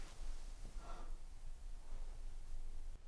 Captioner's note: Ashley exhales